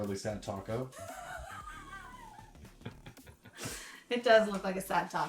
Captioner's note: laughs